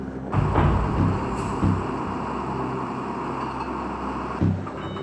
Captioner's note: machinery whirring